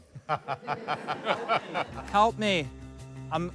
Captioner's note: laughter